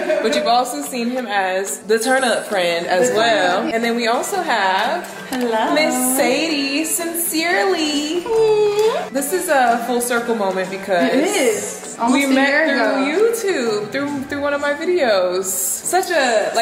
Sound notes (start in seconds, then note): 0.0 laughing; 8.2 cooing